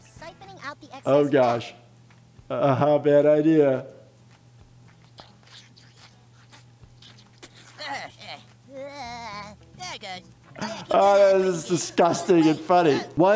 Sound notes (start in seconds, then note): 3.9 suctioning noise; 8.6 Butters groaning